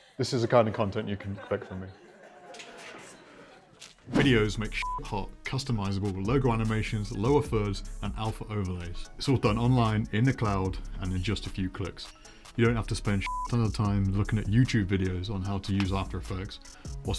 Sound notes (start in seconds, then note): 4.7 beep; 13.2 beep